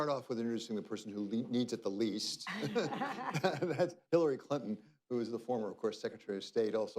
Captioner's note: laughs